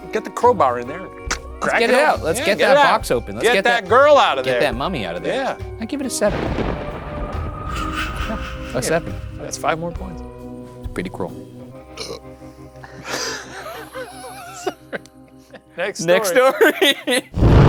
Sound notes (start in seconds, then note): 6.2 thunder rumbling; 12.0 burps; 16.2 laughs; 17.4 tense foreboding music